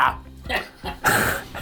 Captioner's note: chuckles; man laughs